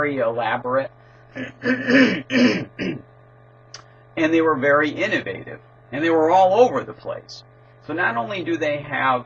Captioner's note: cough